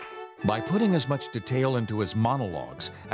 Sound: audience laughs and applauds; voiceover

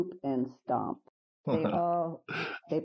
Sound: laughing

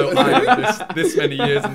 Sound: everyone laughing

